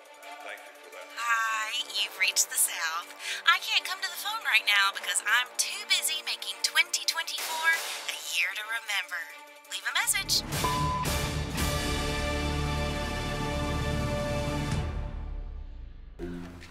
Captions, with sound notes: Thank you for that. (Voicemail) Hi, you've reached the South. I can't come to the phone right now because I'm too busy making 2024 a year to remember. Leave a message! (beep)